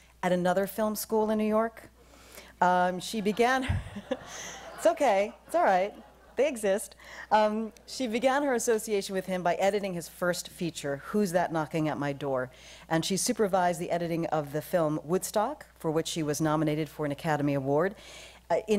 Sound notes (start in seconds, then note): 3.2 laughter